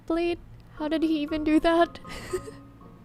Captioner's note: laughs